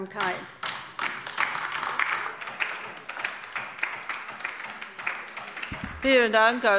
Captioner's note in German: Beifall bei der LINKEN